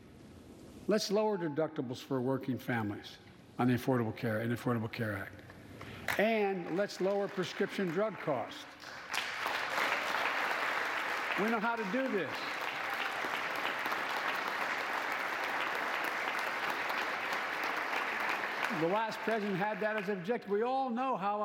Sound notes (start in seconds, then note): 10.7 applause